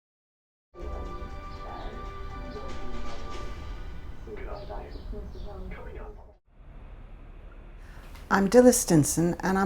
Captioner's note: sound of television in background